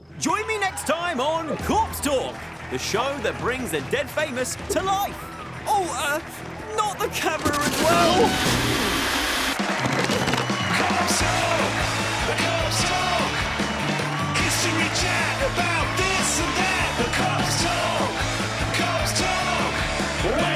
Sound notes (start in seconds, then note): 7.4 static